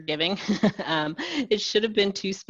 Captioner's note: laughs